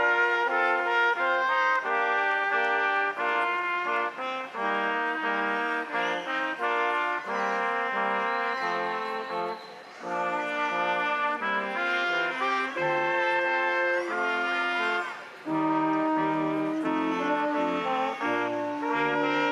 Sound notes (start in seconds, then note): 4.1 crowd applauding; 4.1 instrumental music continues